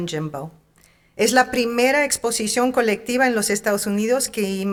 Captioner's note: speaking in Spanish